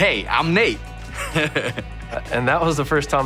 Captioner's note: laughing